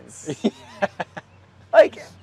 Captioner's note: laughs